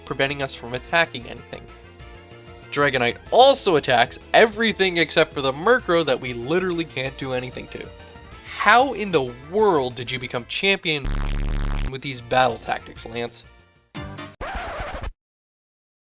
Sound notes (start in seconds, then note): 14.4 record scratch